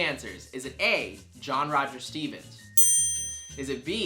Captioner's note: dings